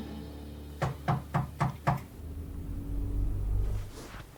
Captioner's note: door knocking